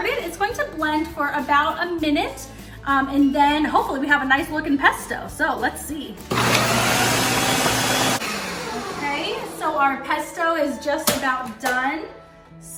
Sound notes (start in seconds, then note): 6.3 blender sounding